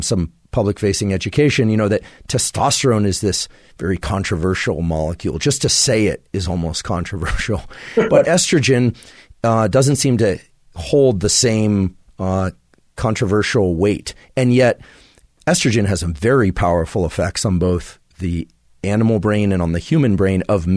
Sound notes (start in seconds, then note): 7.9 Robert laughs; 7.9 laughs